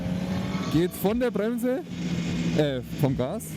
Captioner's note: motor brake